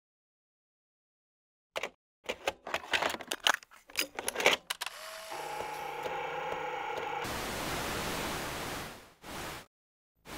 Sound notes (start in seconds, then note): 1.2 video cassette clicking; 4.8 player whirring; 7.3 TV static sounds